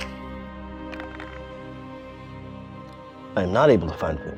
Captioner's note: dice clanks